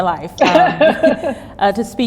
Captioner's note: both laugh